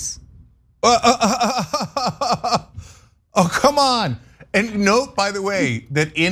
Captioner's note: laugh